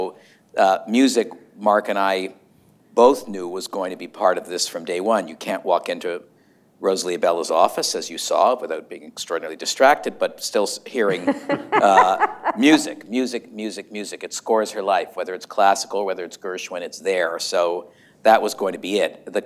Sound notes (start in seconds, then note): 11.0 laughter